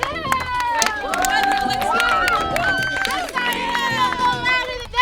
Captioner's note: audience cheers